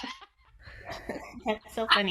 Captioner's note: all giggling